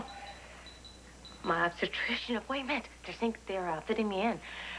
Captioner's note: pager beeps